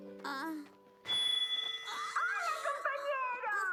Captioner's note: microphone feedback